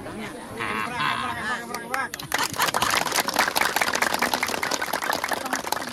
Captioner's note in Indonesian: tepuk tangan